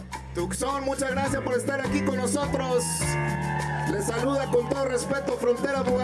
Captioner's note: speaking in foreign language